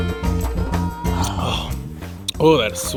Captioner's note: both sigh, satisfied